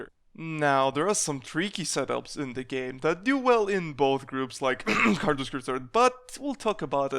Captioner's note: cough